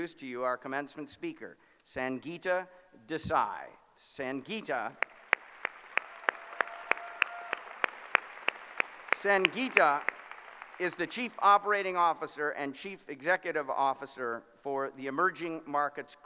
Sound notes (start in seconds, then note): 5.0 applause